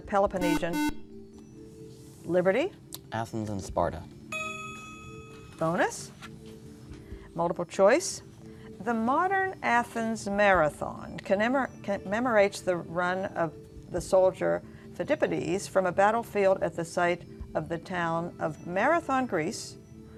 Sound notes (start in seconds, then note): 0.4 beeping; 4.3 ding